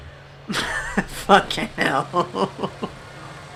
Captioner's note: laughs